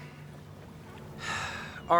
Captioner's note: sighs